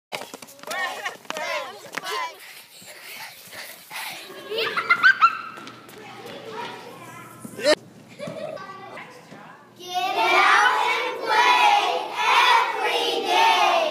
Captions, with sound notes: (sounds of kids running) (kids laughing) (sounds of kids playing) Get out and play every day!